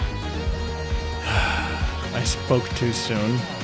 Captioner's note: sighs